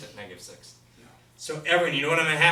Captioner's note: voiceover